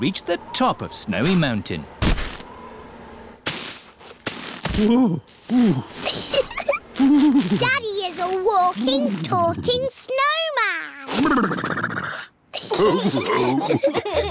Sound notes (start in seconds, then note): 5.4 groans; 6.1 giggles; 12.8 all laughing